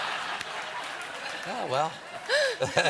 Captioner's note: laughter